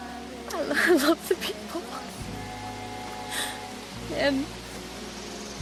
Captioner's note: sobbing